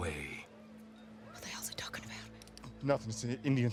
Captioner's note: whispering